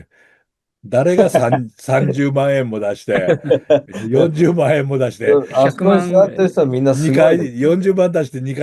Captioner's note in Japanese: 笑い